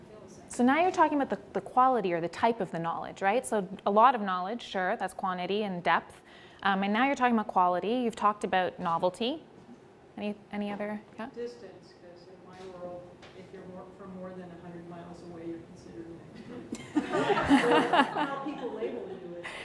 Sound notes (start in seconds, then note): 16.7 laughing